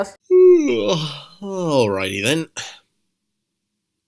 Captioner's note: yawn